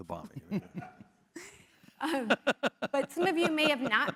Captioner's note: laugh